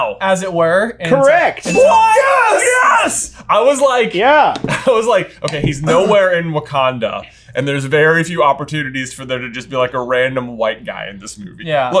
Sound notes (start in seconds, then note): 1.6 celebration yells